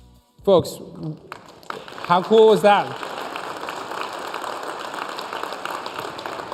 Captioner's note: applause